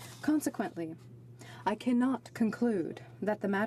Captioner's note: speaking French